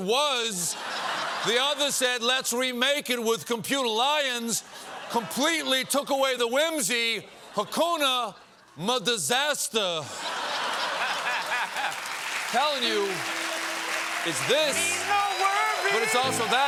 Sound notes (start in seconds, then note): 10.0 laughter; 10.6 applause